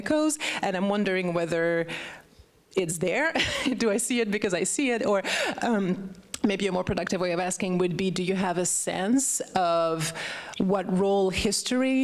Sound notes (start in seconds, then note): 2.9 laughs